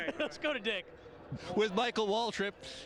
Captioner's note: laughter